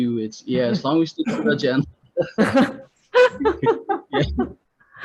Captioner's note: both laughing